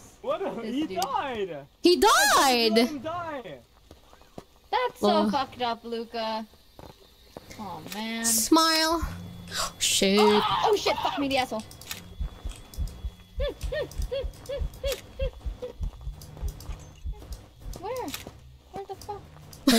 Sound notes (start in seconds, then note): 10.1 screaming